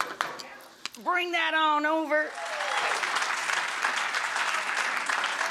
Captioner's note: audience applause